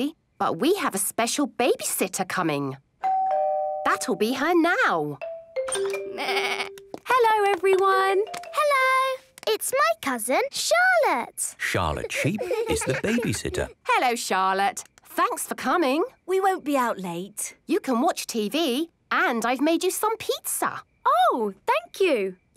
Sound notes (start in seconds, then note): 3.0 doorbell rings